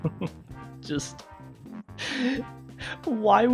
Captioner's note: deep breath of contempt